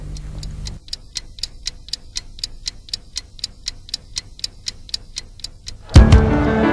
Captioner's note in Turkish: Tik-Tak